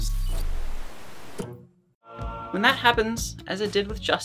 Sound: static buzzes

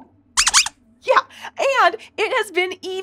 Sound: squeaks squeaking

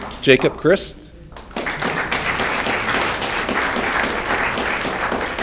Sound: audience clapping

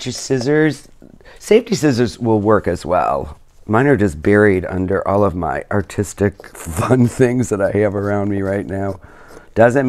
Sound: laughs

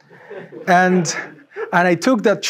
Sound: audience giggling

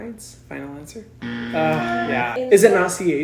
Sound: buzzer

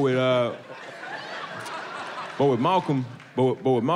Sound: audience laughs

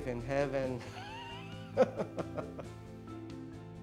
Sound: laughs; bright music

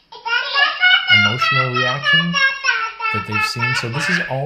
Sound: baby giggles; baby speaks gibberish

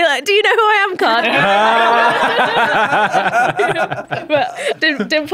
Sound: raucous laughter

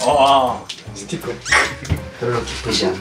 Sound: shrieks

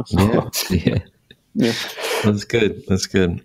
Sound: laughing

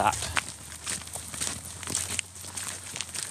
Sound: crunching footsteps

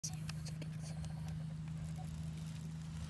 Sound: sounds: leaves crackling

